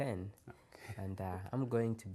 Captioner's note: laughs